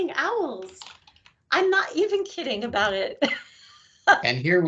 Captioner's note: laughing